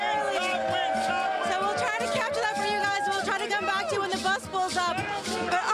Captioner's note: applause